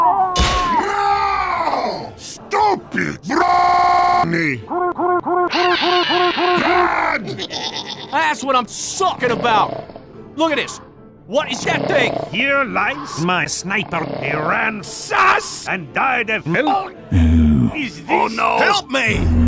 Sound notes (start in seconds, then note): 7.2 the Changeling giggles; 11.7 Sniper is snoring